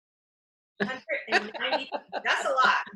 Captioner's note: laughs